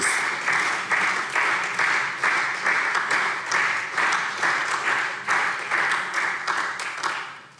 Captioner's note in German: Beifall SPD